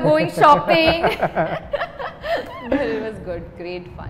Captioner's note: laughs